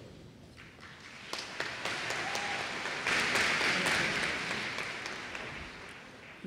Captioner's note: applause